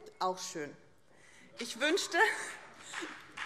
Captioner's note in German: Beifall BÜNDNIS 90/DIE GRÜNEN